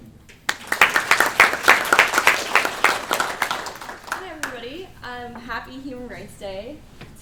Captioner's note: applause